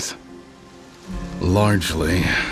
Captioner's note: rajadas de vento